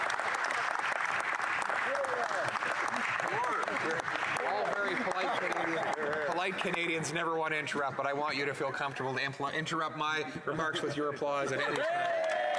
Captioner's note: applause